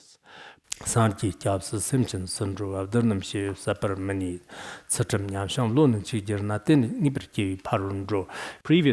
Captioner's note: citing scripture in Tibetan